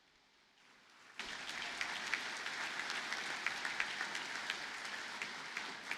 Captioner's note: audience applauding